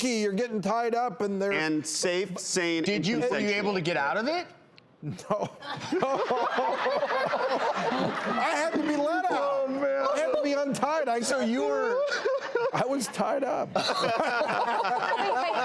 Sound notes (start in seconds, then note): 5.6 laughing; 14.4 laughing